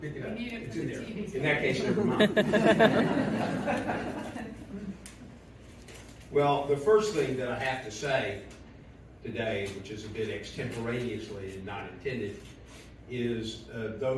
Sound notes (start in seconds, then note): 1.7 laughter